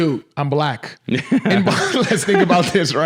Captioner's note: men laughing